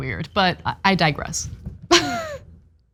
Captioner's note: laugh